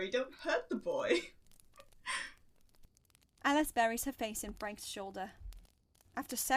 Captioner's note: Alice laughs